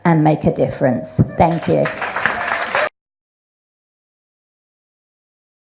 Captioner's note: audience applauds